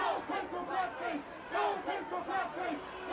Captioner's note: shouting continues